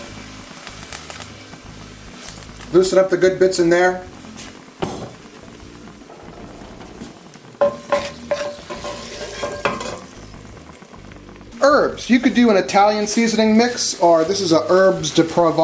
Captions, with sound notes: Loosen up the good bits in there. (pots clanging) Herbs, you could do an Italian seasoning mix or this is an (speaking in foreign language).